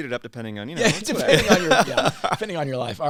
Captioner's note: laughter